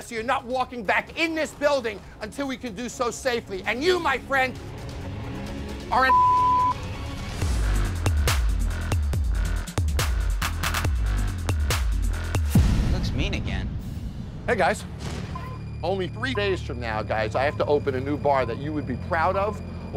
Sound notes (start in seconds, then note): 6.0 beep; 7.7 upbeat electronic music